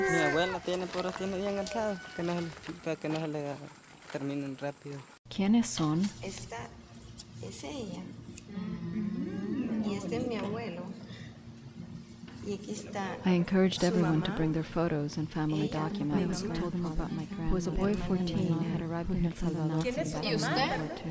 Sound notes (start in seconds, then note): 0.0 baby crying; 0.8 speaking Spanish; 5.3 speaking Spanish